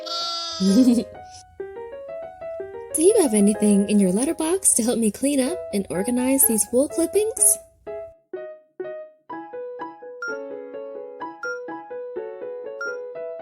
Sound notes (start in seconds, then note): 0.0 baa-ing; 0.5 Koha giggling; 8.8 bright piano music; 11.4 timer beeping